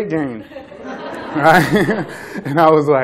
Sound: laughter

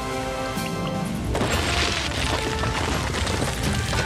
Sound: sound of boulder coming loose; sound of boulder rolling

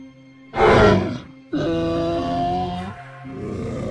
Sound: triceratops sounds

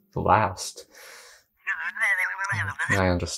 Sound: mumbles with a Highpass filter on

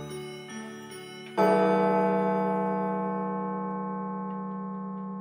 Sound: chime

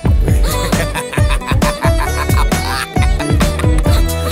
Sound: laughs

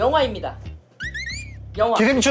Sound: wriggling

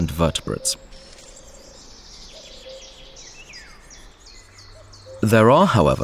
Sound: sounds of nature

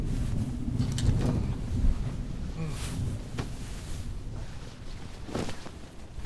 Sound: thunder rumbling; bedding rustling; clothes rustling

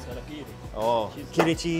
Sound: speaking in foreign language

